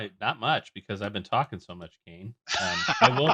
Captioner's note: laughs